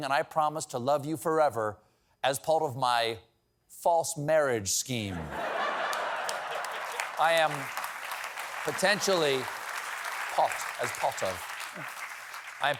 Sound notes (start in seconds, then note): 5.1 laughter; 5.6 applause